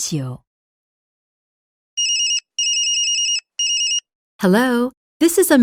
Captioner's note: cellphone rings